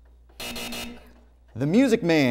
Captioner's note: buzzer